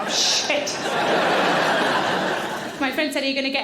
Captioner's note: audience laughing